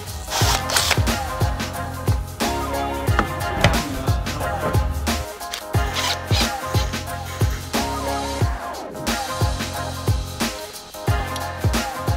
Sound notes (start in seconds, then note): 0.8 tools whirring